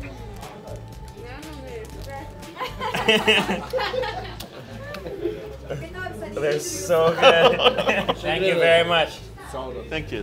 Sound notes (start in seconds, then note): 2.5 laughing